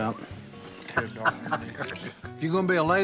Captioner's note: Si laughs